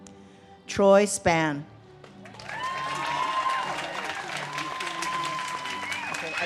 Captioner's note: audience cheers and claps